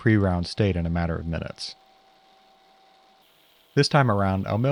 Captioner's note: mill whirring